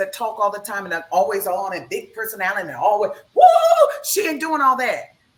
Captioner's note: laughs; howls